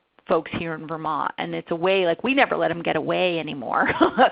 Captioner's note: laughter